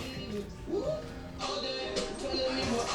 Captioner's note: radio playing